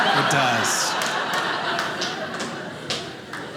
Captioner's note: audience laughing